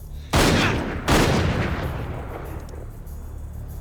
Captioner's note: gunshots banging